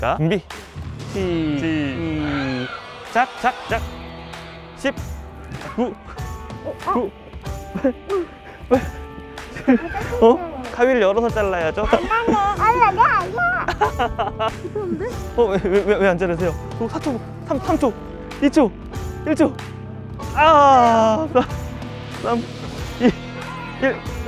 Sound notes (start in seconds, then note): 11.8 haha